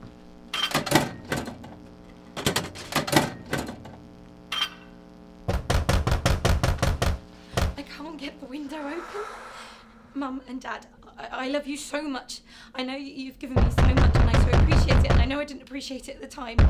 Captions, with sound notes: [WINDOW RATTLING] [LOUD KNOCKING] I can't get the window open. Mum and dad, I love you so much, I know you've given me so much and I so appreciate it, and I know I didn't appreciated it at the time.